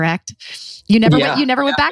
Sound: laughs

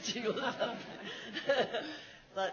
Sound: laughs

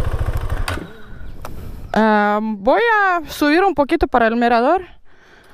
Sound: in Spanish

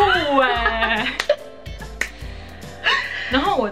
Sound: rabbit happily laughing

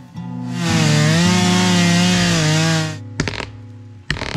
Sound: saw buzzing

